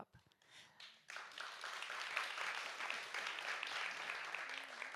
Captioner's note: audience applauds